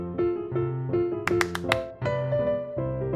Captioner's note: claps